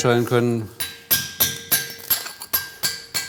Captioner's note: metal clinking